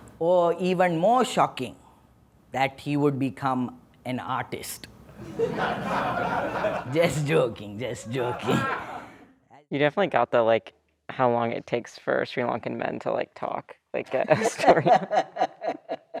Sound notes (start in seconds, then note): 5.2 laughter; 14.1 laughter